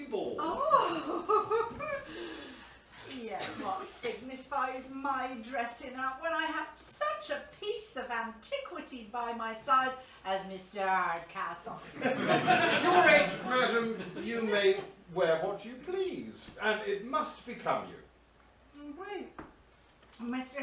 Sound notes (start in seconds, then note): 0.5 giggles